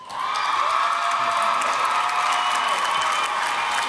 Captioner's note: applause